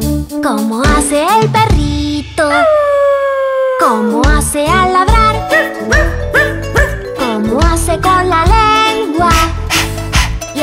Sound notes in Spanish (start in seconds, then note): 2.8 Aullido; 6.7 Ladrido